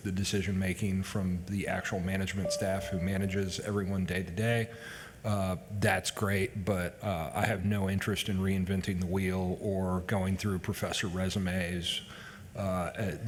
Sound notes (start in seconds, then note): none